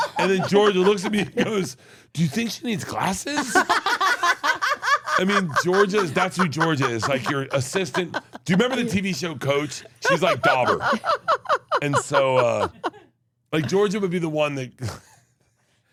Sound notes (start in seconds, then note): 3.5 laugh; 11.2 laughs